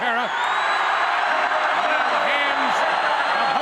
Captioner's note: crowd cheers